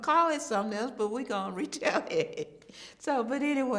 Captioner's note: chuckles